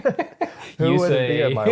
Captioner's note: laughing